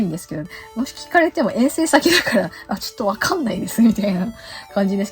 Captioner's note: laughs